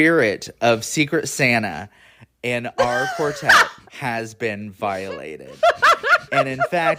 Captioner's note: cackling